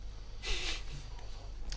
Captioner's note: giggle